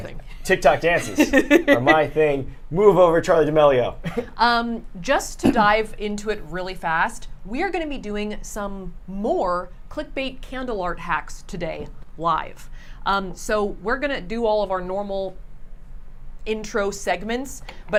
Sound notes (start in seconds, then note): 1.0 Safiya laughs; 4.4 laughs